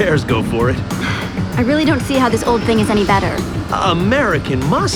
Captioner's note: sigh